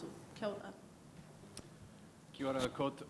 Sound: speaks in a foreign language

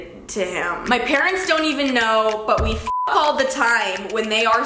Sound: beep

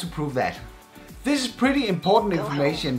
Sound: program beeps

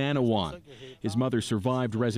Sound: speaking French

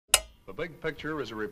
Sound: TV clicking

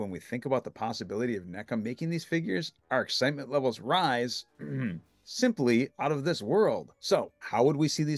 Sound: ahem

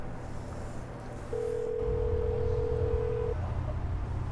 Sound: ring tone

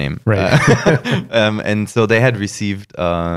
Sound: laughter

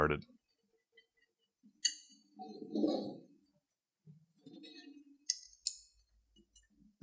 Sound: bolt installation noises

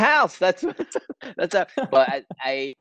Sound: both laughing

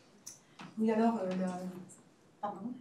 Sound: speaking french

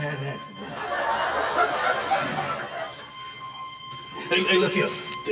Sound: audience laughing

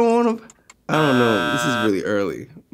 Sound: buzzer goes off

